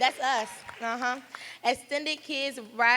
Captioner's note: applause